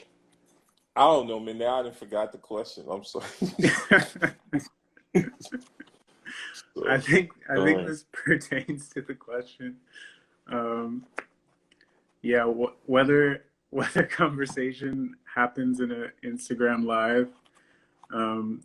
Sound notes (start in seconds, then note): 3.2 laughter